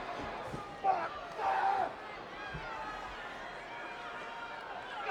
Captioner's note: Rhyno yells